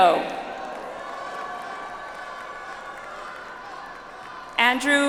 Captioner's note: audience applauds